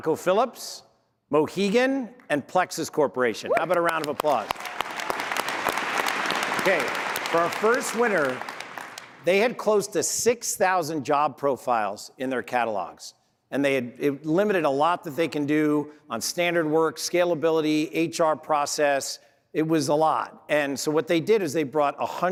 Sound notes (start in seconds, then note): 8.7 applause